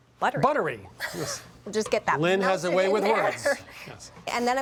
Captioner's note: chuckling